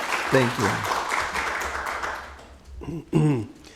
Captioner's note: applause